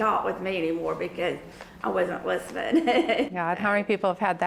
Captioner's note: laughs